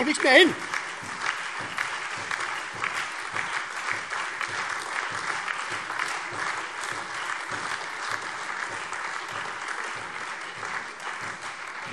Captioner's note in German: Beifall SPD, AfD, Freie Demokraten und DIE LINKE